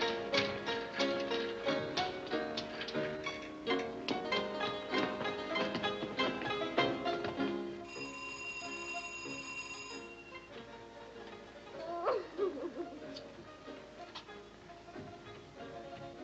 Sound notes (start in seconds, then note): 7.8 doorbell; 11.7 sobbing